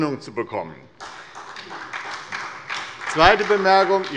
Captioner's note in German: Beifall bei der SPD